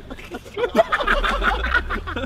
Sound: laughing; Vik coughing

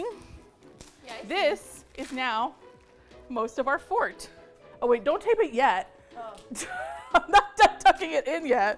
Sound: laughs

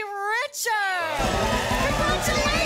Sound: audience applause

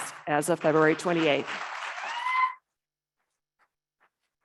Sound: audience clapping

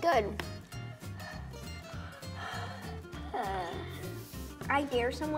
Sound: hyperventilating

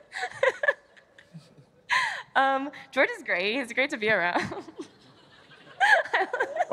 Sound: laughter

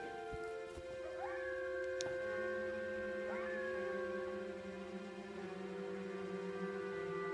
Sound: animal howling; suspenseful music

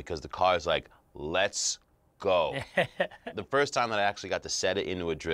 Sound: chuckles

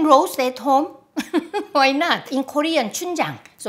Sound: laughs

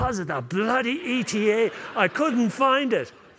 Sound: laughter

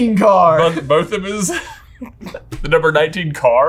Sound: laughs

